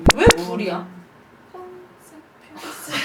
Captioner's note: silence